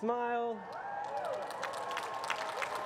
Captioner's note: cheering and applause